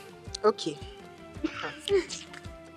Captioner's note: laughs